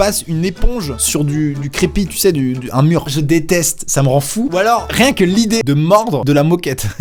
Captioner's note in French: rire